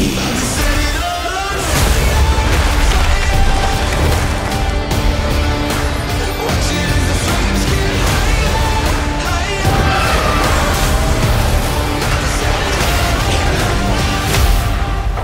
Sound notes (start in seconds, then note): 9.4 shrieks; 12.0 creature roars